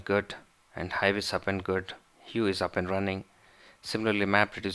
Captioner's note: hugh